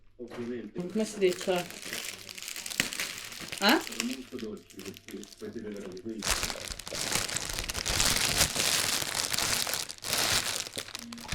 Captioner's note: chatting in Italian with mom